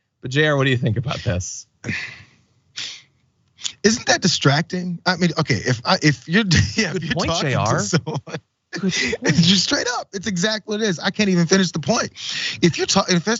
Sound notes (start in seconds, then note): 8.4 laugh